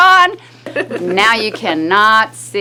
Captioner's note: laughing